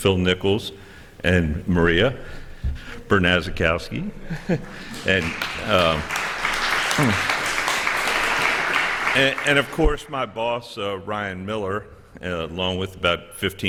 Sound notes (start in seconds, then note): 4.6 applause